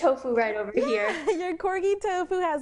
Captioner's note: laughs